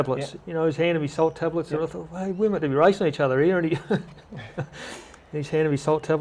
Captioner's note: laughter